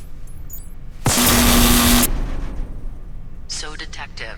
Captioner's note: electricity beam buzzes